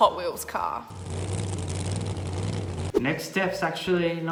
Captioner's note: car revving